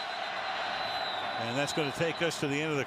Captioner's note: whistle